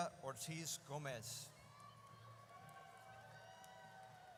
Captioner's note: audience cheers